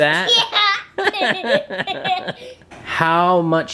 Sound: laughing

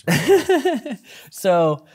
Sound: laughs

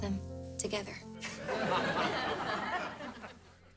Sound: laughing

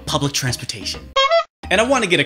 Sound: honk

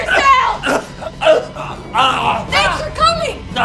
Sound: chokes

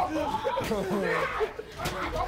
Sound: laughter; screaming

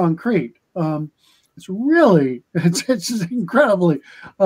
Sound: laughter

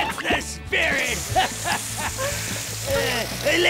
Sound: laughing

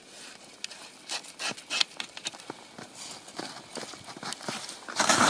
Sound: probe crunching

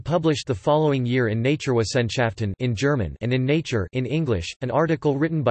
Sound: in German

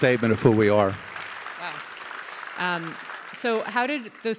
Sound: audience applauding

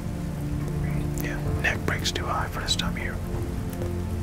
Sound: whispering

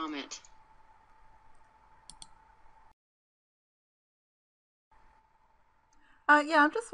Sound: hear keyboard click; keyboard click

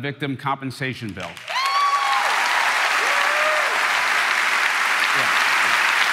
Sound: crowd cheering

